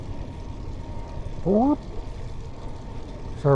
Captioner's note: mimic police siren